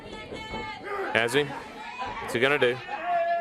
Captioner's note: crowd chatter